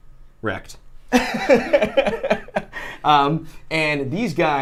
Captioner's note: both laughing